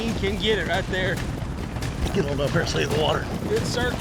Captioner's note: fast hoofbeats